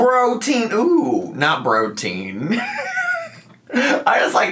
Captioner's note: laughs